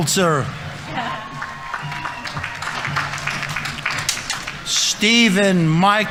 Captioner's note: audience members cheering; audience applauding